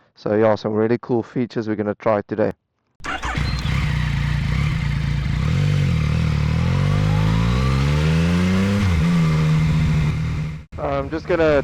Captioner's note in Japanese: エンジン始動